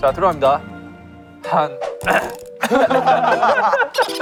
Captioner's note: ahem